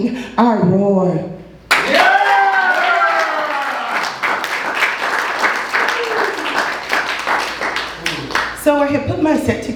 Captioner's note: applause